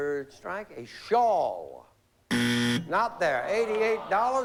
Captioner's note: buzzer